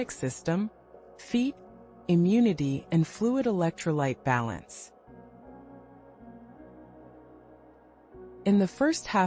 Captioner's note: pause